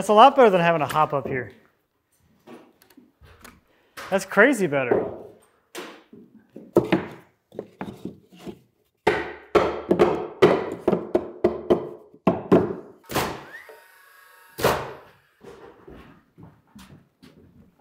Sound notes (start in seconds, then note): 9.0 hammering; 14.5 nail gun thudding